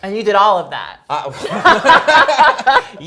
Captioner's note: laughter